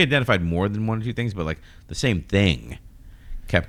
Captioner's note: uh